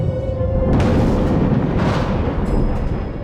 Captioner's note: thunder crashes